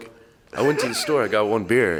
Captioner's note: snickering